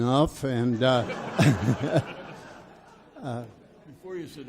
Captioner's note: audience laughs